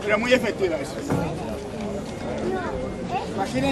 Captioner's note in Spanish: el publico comenta